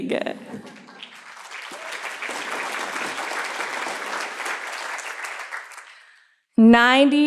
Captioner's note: applause